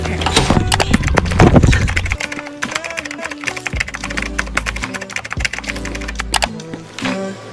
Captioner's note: keyboard Clicking & Typing